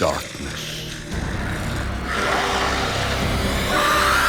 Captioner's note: loud growling; screams